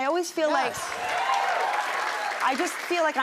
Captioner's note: cheers and applause